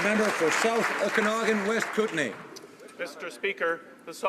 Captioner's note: some Applause